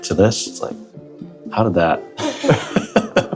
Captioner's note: laughs